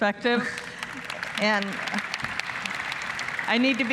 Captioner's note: applause